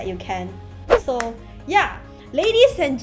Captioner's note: clap